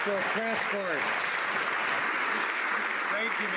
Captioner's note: some Applause